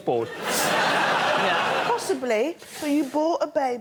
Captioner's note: laughter